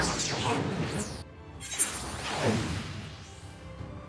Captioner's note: whooshing